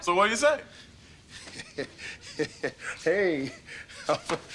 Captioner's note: laughs